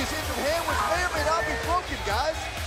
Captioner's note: crowd cheering